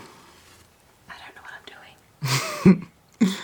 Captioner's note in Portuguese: sussurrando